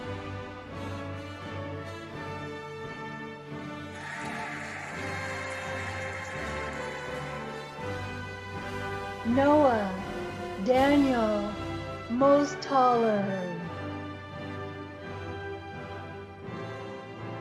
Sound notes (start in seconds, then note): 3.9 cheering and applauding; 14.4 cheerful music